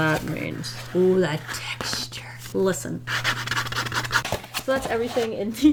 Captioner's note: scratchy-scratch